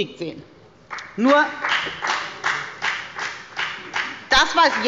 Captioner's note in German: Beifall bei der FDP